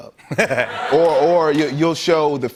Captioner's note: laughter